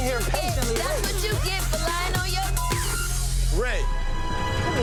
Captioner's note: beep